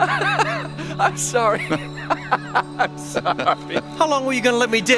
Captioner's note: laughs